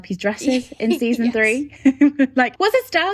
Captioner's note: laughing